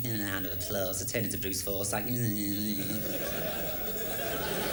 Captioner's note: imitates Bruce Forsyth